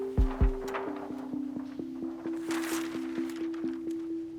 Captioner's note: paper wrinkling